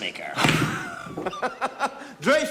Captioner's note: laughing